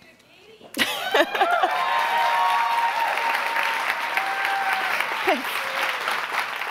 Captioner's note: laughing; audience cheering